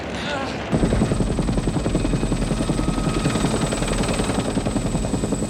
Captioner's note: helicopter rotors whirring